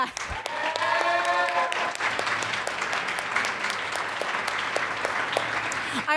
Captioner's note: audience applauds and cheers